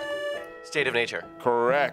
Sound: buzzer beeps

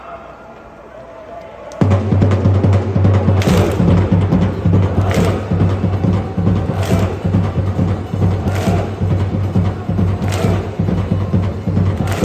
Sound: clap, clap clap clap, clap, clap clap clap

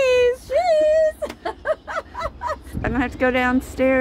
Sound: laughing

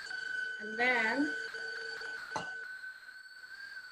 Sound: mixer whirring

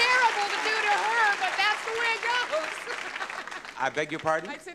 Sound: laughs

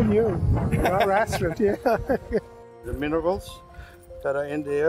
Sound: laughs

